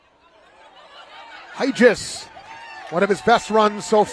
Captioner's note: laughter